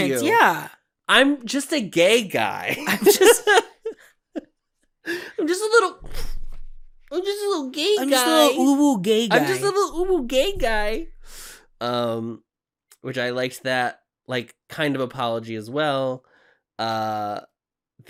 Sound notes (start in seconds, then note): 2.7 laughter; 5.0 juvenile voice; 6.1 pff